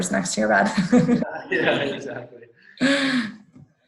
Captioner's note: laughs